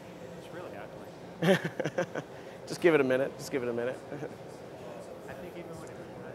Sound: laughter

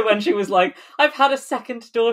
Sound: laughs

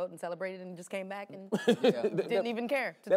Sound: laughs

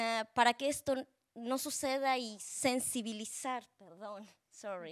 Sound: speaking Spanish

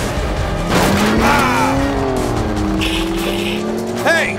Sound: exciting music; Elliot yelling; hissing

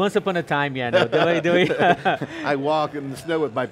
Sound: both chuckling

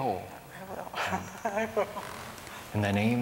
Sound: laughter

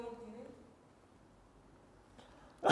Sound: silence

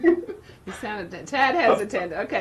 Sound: chuckles

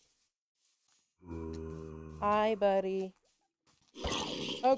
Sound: zombie groans

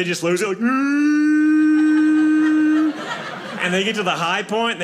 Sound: imitates a fog horn blowing

